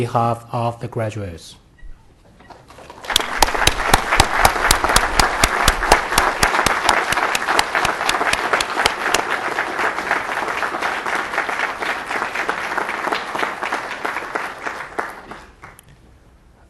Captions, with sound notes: on behalf of all of the graduates (applause)